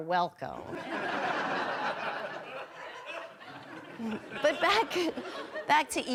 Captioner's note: audience laughing